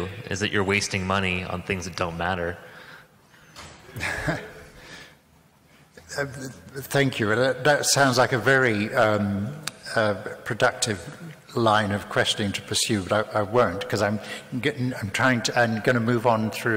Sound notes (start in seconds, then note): 3.9 laughs